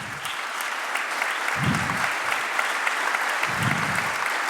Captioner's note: applause